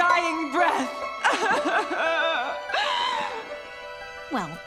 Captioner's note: crying